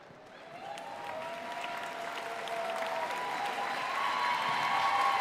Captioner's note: audience cheering and applauding